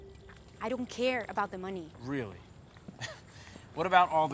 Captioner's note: laughs